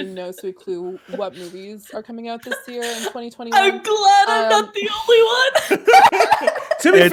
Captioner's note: laughs